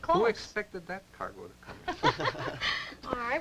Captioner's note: laughter